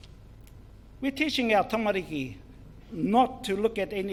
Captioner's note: foreign Language